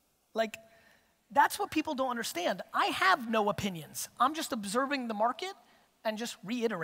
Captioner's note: none